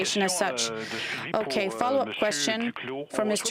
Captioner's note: speaking french